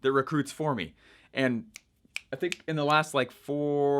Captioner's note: snapping fingers